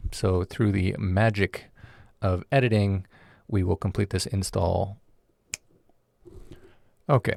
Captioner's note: snaps fingers